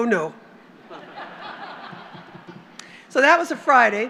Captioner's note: laughter